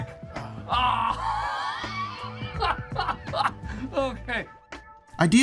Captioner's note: giggling